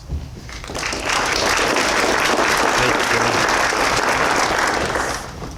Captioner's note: applause